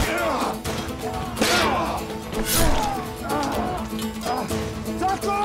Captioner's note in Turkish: Kılıç sesleri; Müzik - Aksiyon